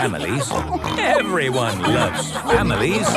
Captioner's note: snorts